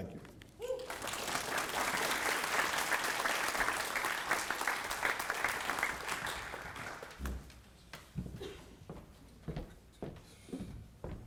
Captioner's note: applause